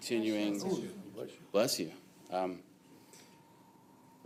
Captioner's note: participant sneezes